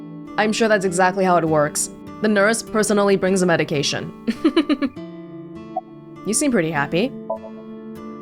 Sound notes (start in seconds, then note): 4.2 chuckles